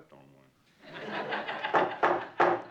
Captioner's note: people laughing; judge pounding his gavel